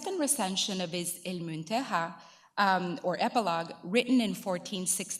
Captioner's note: speaking in foreign language